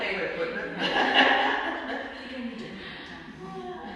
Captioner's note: laughing